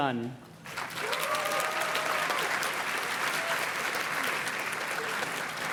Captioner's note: audience cheers and claps